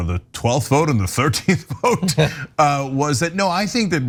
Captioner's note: laugh